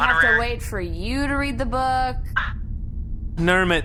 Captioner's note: scoffs indignantly